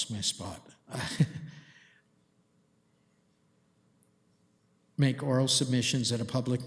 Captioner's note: chuckles